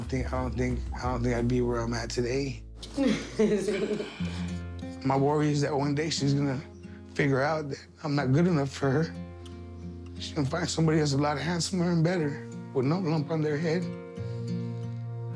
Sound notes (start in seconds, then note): 2.9 laughs; 9.5 voice breaking